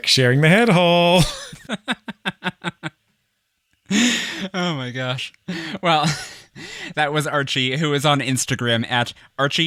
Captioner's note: laughs